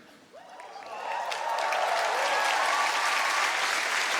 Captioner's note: applause